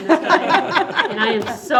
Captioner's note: board laughing